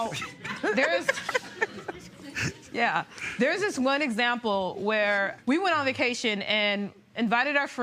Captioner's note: laughter